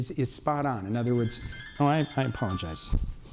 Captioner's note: phone ringtone